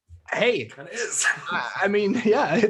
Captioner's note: laughing